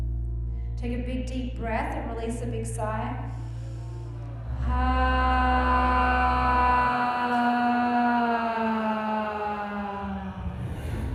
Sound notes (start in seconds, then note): 4.5 all sigh